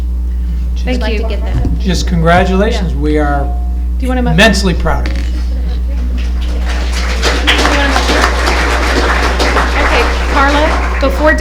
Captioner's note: applause